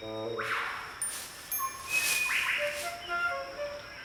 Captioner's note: leaves rustling